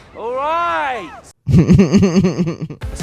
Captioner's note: laughter